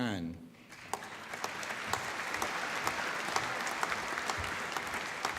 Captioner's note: applause